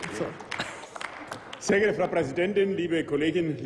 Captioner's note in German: Applaus